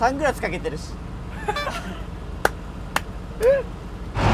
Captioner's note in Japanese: 笑 拍手